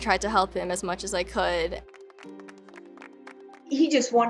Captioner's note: players clapping